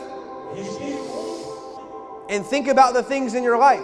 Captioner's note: inhales